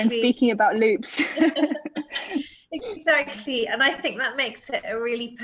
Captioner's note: laughter